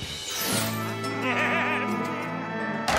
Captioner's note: chomps, loud moo; cows moo, dukey laughs